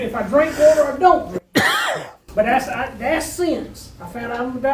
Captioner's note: coughs